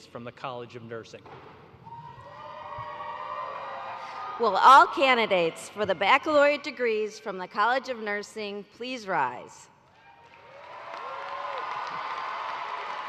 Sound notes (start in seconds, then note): 5.2 cheers